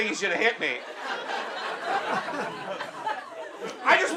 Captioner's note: audience laughs